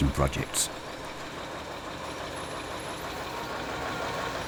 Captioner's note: truck rumbling